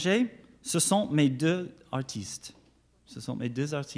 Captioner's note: speaks French